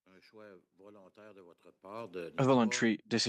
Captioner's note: speaking French